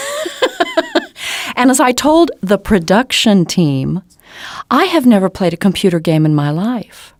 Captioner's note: laughter